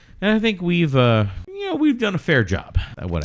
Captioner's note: uh